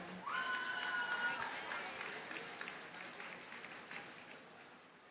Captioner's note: audience cheers and applauds